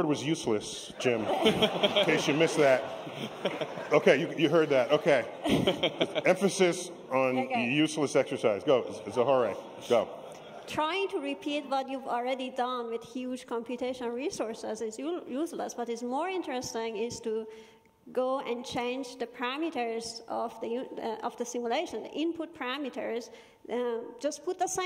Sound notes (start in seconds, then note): 4.9 laughter